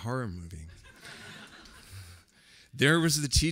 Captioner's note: laughter